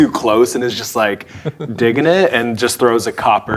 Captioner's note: chuckling